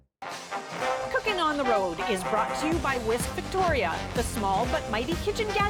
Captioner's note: announcer voice